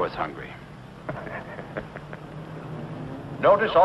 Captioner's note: chuckles